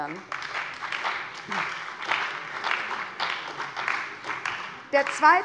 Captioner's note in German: Beifall bei der CDU und dem BÜNDNIS 90/DIE GRÜNEN